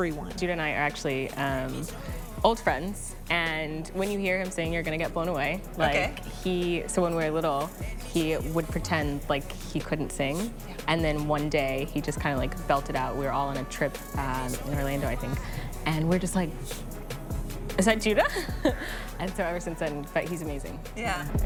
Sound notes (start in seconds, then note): 18.2 chuckles